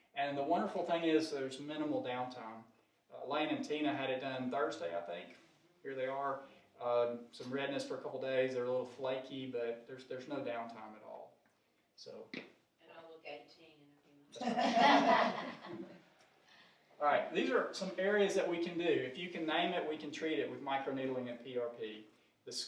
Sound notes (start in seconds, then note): 14.4 audience laughing